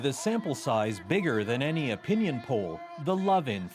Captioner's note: cheers and Applause